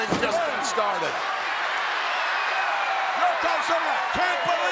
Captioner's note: audience cheers